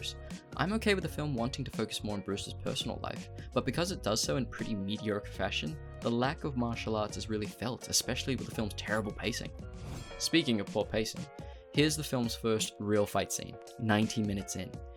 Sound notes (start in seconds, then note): 9.9 bell dings